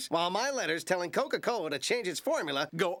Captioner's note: none